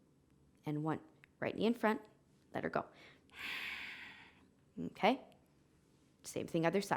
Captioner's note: exhaling